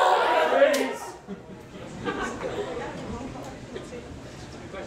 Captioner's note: claps hand